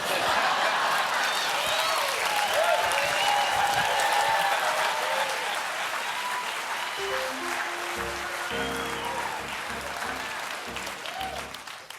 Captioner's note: laughter; cheers and applause